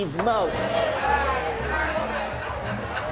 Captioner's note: all chattering and laughing